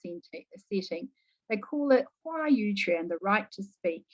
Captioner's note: speaking mandarin